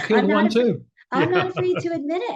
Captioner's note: laughs